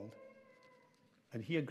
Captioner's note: child vocalises